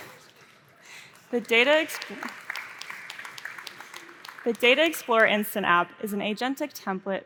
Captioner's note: applause